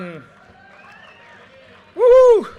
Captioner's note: audience cheers and applause